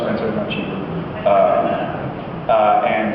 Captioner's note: laughs